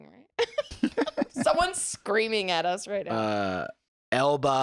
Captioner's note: laughs